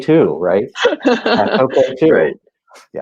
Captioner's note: laughing